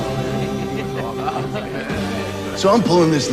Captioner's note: indistinct chatter